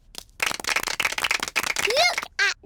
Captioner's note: applause